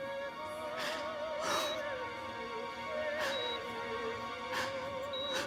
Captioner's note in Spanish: Sollozos